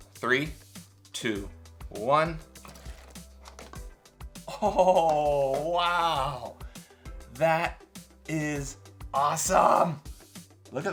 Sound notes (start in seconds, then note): 4.4 giggles